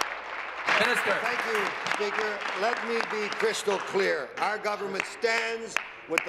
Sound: applause

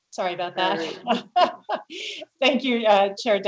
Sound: laughs

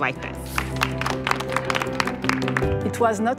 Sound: applause

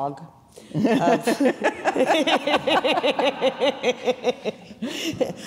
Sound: laughing heartily

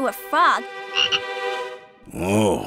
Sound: croaking

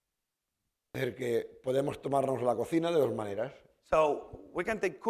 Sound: speaking spanish

